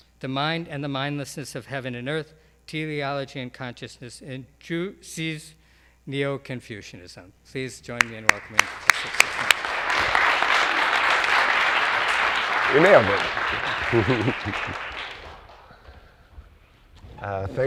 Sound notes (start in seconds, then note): 10.0 audience applaud; 14.2 chuckles